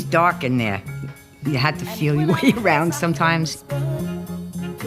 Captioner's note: chuckling